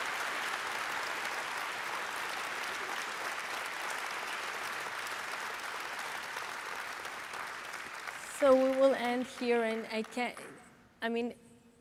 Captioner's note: applause